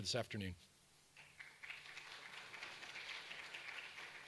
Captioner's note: audience applause